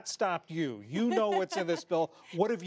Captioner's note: laughter